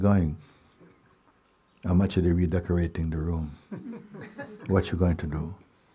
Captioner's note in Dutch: gelach